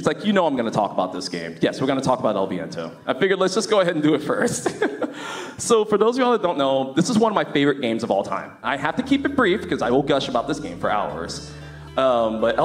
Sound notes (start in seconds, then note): 4.4 laughs